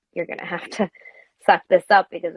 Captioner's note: none